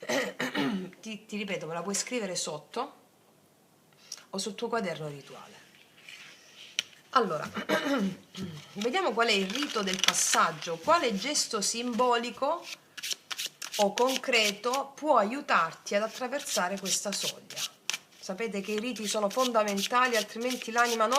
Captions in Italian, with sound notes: [schiarire la voce] Ti ti ripeto, me la puoi scrivere sotto o sul tuo quaderno rituale. Allora, [tosse][schiarire la voce] vediamo qual è il rito del passaggio. Quale gesto simbolico o concreto può aiutarti ad attraversare questa soglia? Sapete che i riti sono fondamentali, altrimenti l'anima